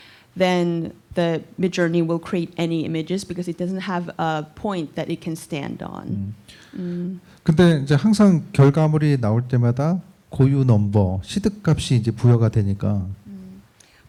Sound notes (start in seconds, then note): 7.1 speaking korean